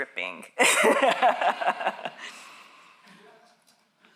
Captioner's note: all laughing